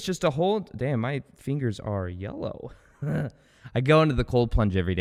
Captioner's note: laughs